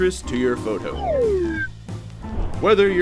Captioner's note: lines whooshing